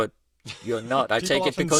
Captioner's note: laughs